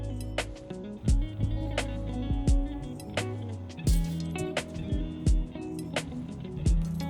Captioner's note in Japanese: ちりん